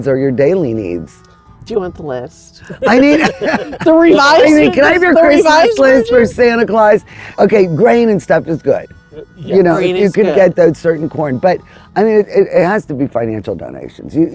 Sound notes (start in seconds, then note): 2.6 all laughing